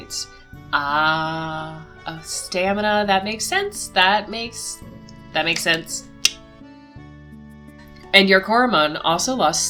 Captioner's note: clicks tongue